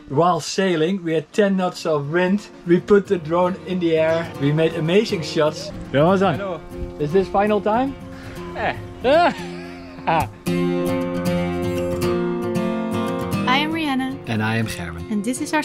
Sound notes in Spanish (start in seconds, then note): 8.4 se ríe; 11.4 música suave